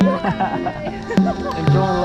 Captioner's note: laughter; waves